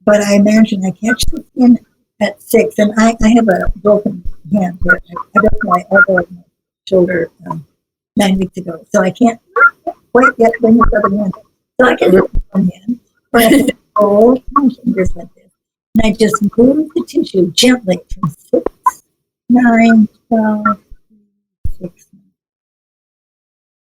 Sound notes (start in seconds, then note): 13.4 laughs